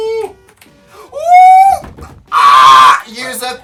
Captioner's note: gasps; drums on desk; screams